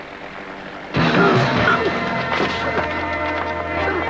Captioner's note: grunting